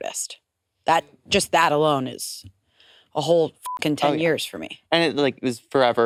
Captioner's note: beep